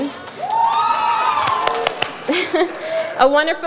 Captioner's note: audience cheers